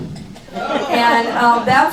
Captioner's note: laughing